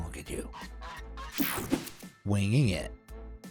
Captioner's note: geese honks